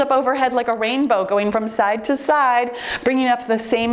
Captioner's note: timer beeps